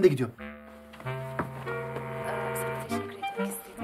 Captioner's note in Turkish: Televizyon sesi